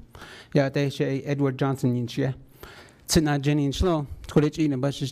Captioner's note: speaking foreign language